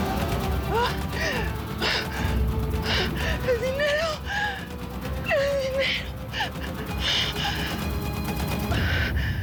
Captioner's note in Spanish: gemidos; sollozos